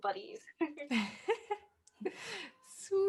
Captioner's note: all chuckling